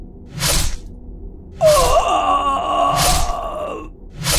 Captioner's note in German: Schlitzen, lautes Ächzen; Schlitzen, Rauschen